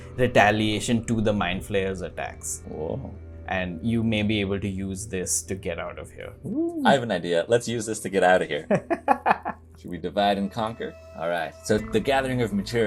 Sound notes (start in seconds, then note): 8.6 laughter